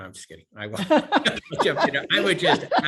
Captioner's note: laughter